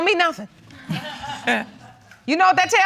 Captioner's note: laughs